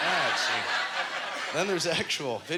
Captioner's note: audience laughter